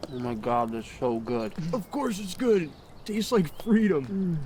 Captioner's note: birds chirping